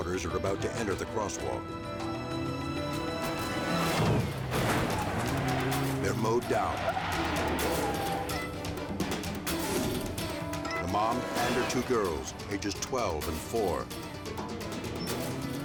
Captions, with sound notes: are about to enter the crosswalk. (car crashing) They're mowed down. (tense music) The mom and her two girls, ages 12 and four.